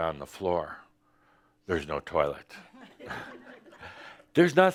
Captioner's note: a few chuckles